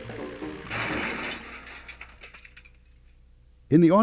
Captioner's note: metal smashing